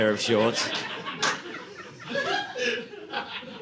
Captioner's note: audience laughing